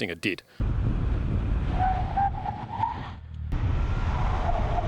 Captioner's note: cars breaking